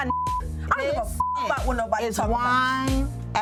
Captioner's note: beep